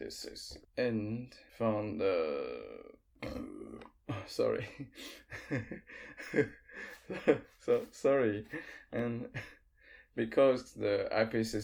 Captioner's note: belching